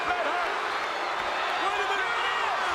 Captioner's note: crowd boos